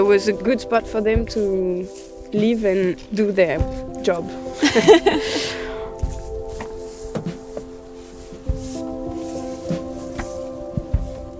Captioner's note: sounds of walking through the vineyard